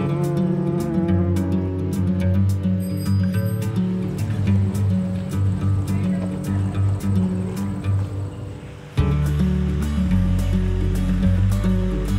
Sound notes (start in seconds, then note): 0.0 bee buzzing; 2.7 bike bell rings; 3.3 gentle wind; 9.2 fountain splashing